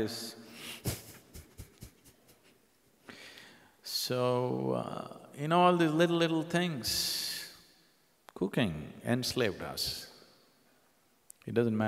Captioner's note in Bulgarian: Смее се